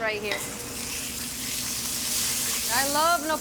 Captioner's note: pan sizzling